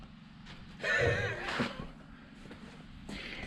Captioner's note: laughing